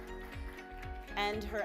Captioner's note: audience applause